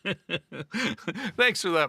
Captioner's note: laughing